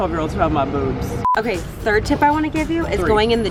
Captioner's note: beeping